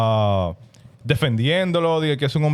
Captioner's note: speaking In Foreign Language